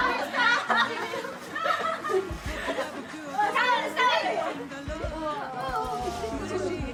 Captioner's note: laughs